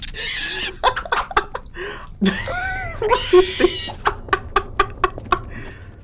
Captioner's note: dumb laughter